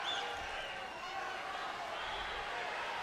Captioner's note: crowd chatter